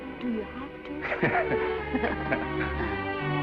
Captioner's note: both chuckling; sweeping music